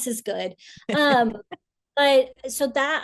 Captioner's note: laughs